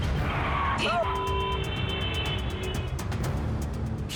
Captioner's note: tires screech; vehicles honking